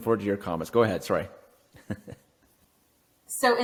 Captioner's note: laughs